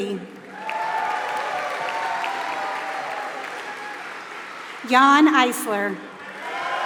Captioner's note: applause